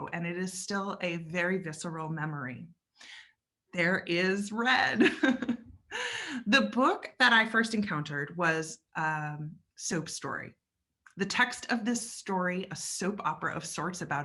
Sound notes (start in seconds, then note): 5.5 laughs